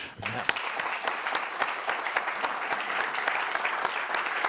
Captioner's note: applause